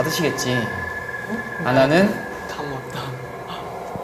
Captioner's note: sigh